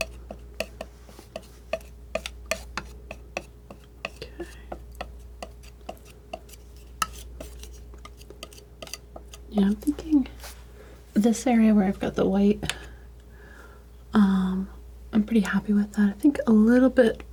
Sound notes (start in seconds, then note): 0.2 tapping